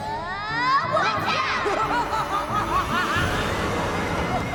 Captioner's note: laughs evilly; groaning